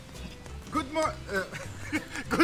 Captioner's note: laughing